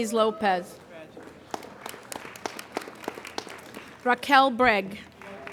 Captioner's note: applauding